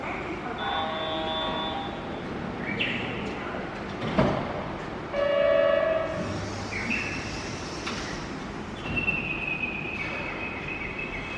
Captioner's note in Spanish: sonido de anuncio de salida del tren y cierre de puertas